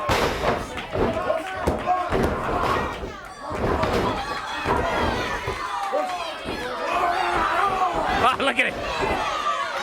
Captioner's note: crowd chatter